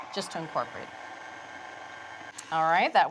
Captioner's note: mixer whirring